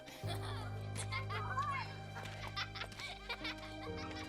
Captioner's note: kids laughing